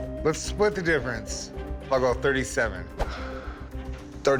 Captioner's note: sighs